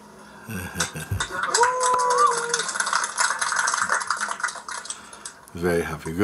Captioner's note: clapping and cheering